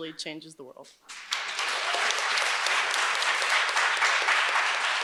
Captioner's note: audience applauds